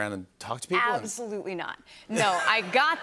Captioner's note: laughter